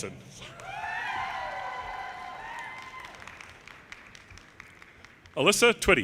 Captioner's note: audience cheers and applause